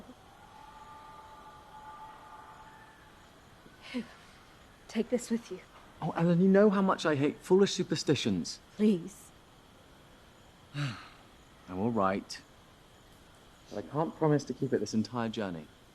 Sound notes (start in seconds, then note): 0.4 distant train whistle; 10.7 Thomas sighs